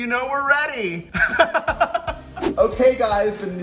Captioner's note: laughs